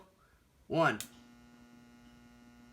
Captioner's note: ballast Buzzing